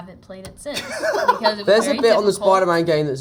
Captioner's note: Jacob laughing